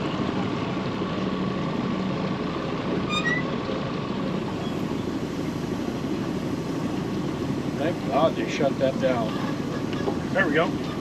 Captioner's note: boat engine idling